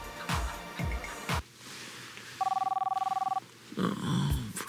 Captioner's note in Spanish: Suena teléfono